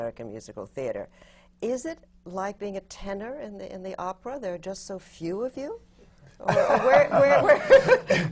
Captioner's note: laughs